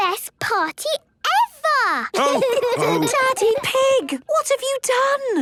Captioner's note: laughter and snorting; laughter